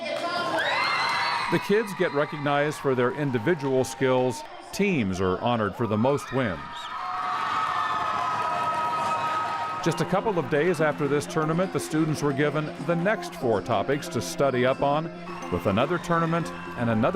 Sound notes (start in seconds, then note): 0.1 announcement, applause; 7.0 more applause